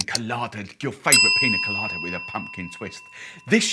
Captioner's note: key strikes twice, bell sounds